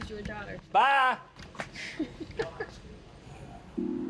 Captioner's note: laughs